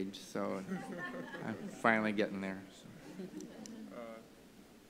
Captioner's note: laughter